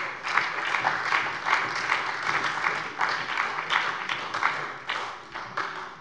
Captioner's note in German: Beifall bei der SPD